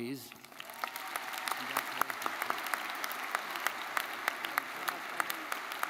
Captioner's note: audience applauding; audience cheering